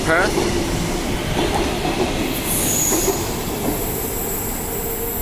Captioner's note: train leaving